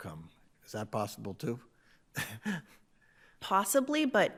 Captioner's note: chuckles